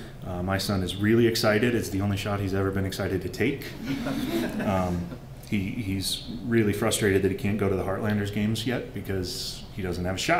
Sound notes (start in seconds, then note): 3.8 laughter